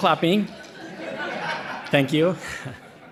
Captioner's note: audience laughing